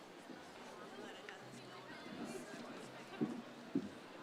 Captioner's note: chattering continues